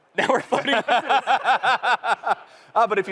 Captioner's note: laughter